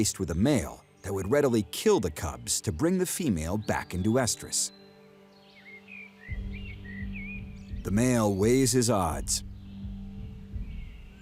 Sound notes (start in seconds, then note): 5.8 birdsong